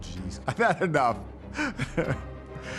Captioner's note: laughs